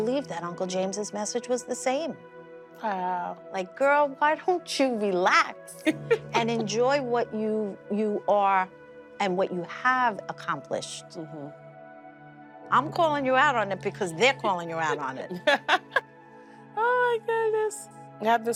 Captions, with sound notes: that Uncle James's message was the same. Wow. Like, "Girl, why don't you relax "and enjoy what you-- you are and what you have accomplished?" Mm-hmm. I'm calling you out on it because they're calling you out on it. [laughs] Oh, my goodness.